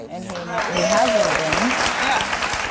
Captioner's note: cheering and applause